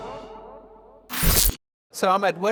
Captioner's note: screen zapping